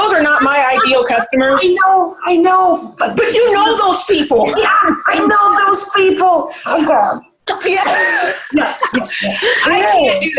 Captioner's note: all laugh